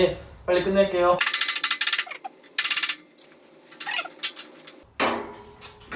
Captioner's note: hammering 6666